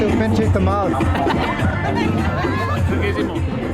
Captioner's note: laughing